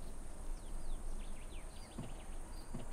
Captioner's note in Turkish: Kuş sesleri